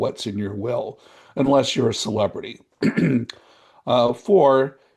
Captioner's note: coughs